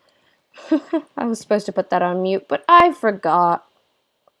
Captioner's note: laugh